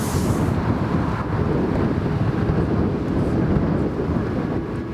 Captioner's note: wind gusting loudly